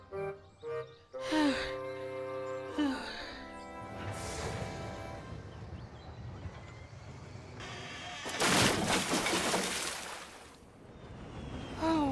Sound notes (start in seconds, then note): 4.2 wood creaks and splinters